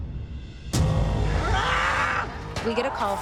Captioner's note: screaming